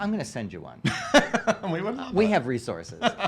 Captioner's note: laughs